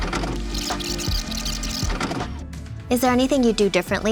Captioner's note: record tape whirring